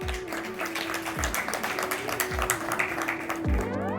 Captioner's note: applause